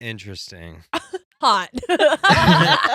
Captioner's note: laughing